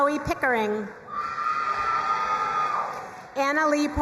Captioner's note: crowd cheering and applauding